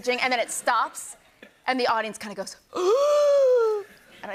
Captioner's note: gasps